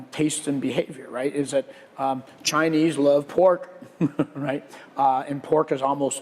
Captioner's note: laugh